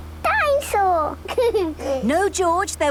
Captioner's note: giggles